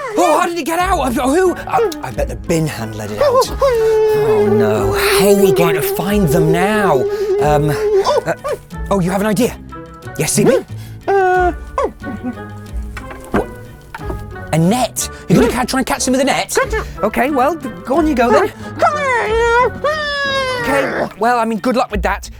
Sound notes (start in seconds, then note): 3.0 whimpers